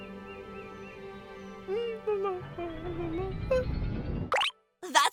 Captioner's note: calm, peaceful music; goo humming